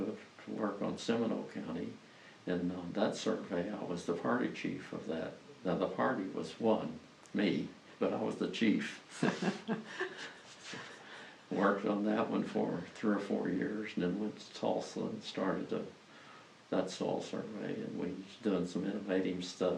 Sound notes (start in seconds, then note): 9.1 laughter